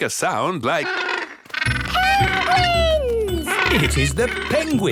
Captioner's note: honking